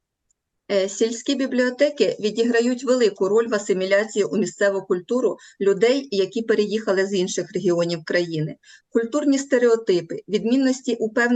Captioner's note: foreign Language